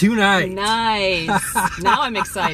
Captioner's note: laughing